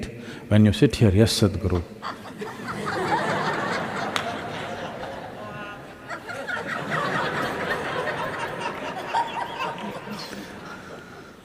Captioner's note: laughter